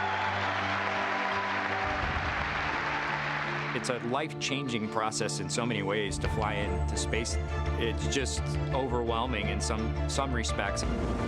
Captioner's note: applause